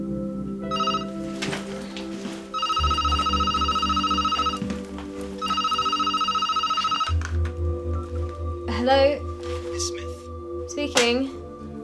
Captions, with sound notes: [PHONE RINGS] Hello. Miss Smith? Speaking.